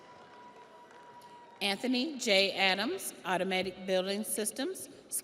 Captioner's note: audience applauds; audience cheers